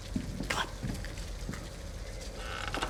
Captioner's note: whispers